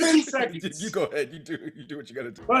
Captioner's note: laugh